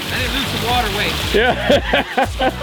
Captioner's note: laughs